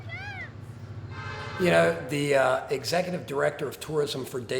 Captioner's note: train whistle